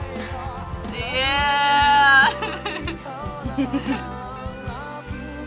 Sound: laughs

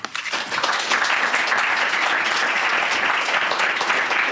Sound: applause

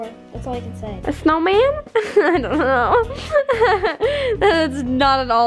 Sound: laughs

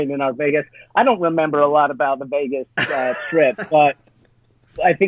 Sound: laughs

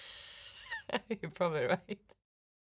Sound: laughing

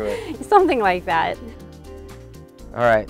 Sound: laughing

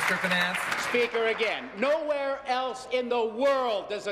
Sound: applause

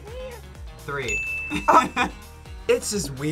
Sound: laughs

